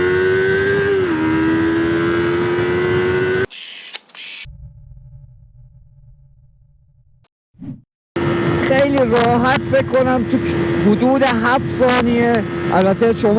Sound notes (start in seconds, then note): 3.5 camera shutter sound